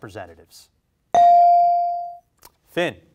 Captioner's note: bell rings